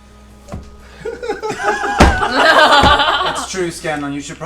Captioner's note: all laugh